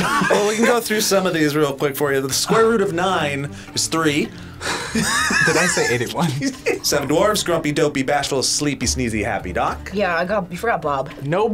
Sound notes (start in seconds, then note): 4.6 laughs